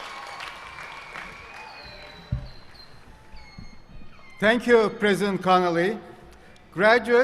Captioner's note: applause